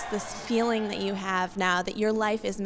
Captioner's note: cheering